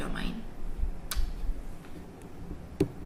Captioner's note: kisses